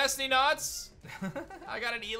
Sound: giggles

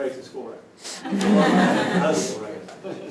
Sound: laughter

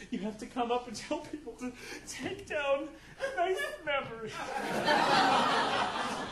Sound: audience laughing

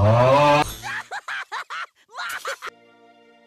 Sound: laughs

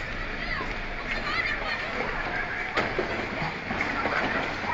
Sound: people screaming

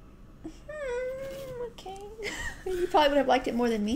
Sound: laugh

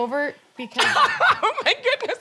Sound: exaggerated laugh

